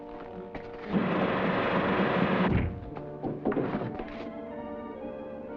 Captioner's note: vibration buzzes; tense music